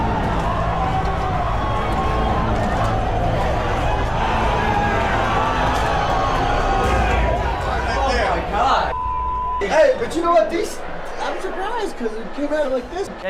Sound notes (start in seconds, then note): 4.4 shouting; 7.4 excited chatter